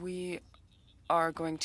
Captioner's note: speaking French